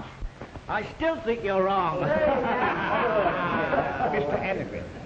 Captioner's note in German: alle lachen